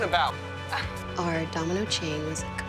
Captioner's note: Helen laughs; voiceover